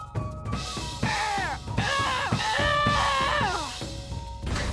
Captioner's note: groaning